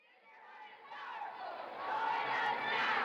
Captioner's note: chanting